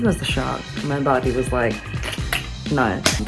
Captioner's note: clicking tongue